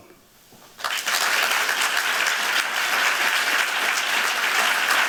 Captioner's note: applause